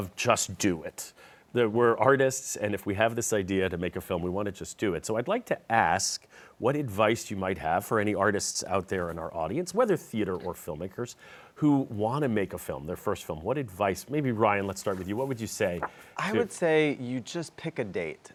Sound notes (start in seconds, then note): none